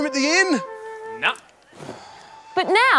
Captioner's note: sighs